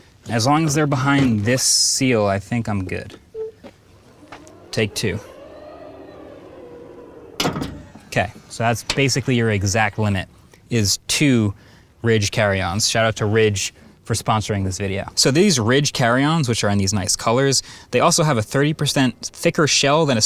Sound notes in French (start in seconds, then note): 6.3 clic du coffre